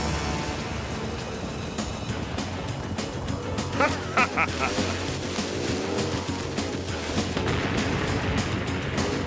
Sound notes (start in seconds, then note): 3.7 laughing